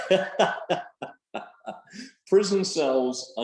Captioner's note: both chuckles